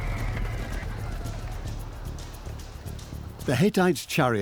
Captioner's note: horses neigh